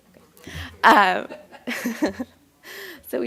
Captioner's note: laughter